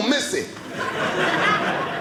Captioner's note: audience laughing